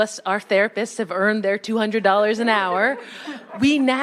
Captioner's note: attendees laughing